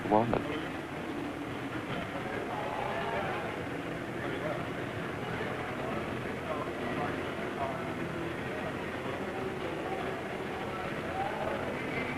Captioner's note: street noise, traffic, unintelligible chatter